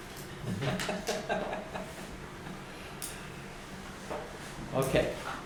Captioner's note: laughter